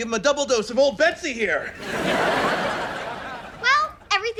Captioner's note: laughs